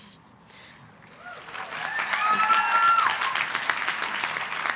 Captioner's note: cheers, applause